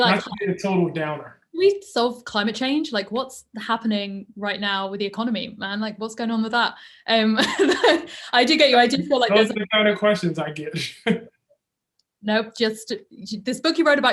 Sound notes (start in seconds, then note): 8.7 chuckles